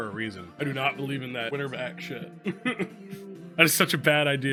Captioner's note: laughs